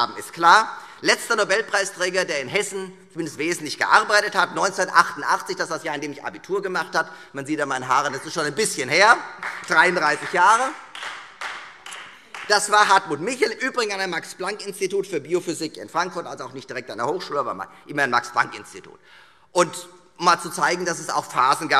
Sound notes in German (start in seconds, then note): 9.1 Beifall Freie Demokraten